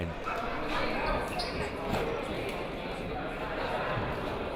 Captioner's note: crowd muttering